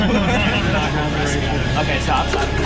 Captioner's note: chuckling; mumbling